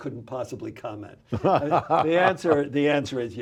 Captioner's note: laughs